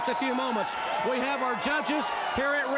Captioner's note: crowd cheering